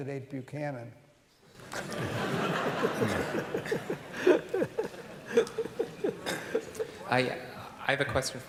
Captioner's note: laughter